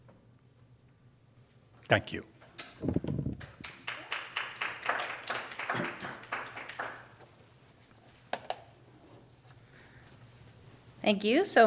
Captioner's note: applause